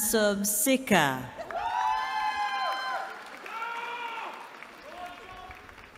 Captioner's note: cheering